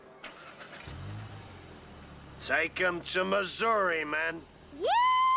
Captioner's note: Imitando a John Wayne